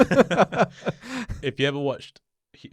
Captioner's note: laughs